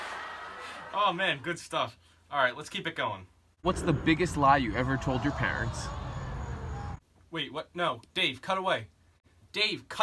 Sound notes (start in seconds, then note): 5.2 audience disappointed